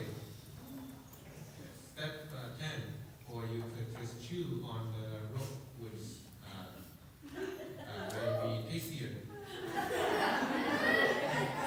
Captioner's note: laughter